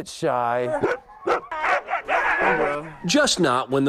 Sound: dogs barking

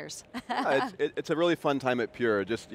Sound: laughs

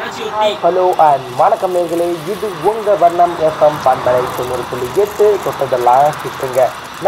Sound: radio plays; radio plays

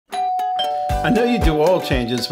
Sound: doorbell ringing

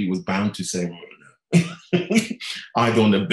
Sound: laughing

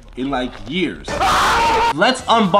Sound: petrified screams

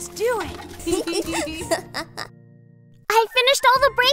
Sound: both giggle

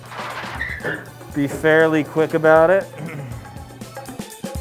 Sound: clears throat; upbeat music

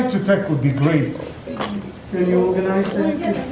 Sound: baby sneezes

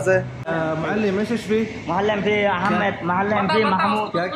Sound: talking in Arabic

